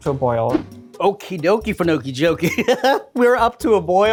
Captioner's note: laughs